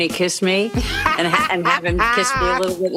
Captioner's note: laughs